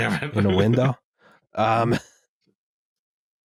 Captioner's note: laughs